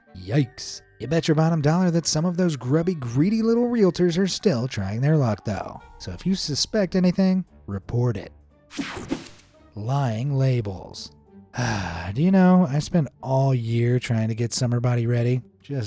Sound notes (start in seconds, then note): 11.5 sighs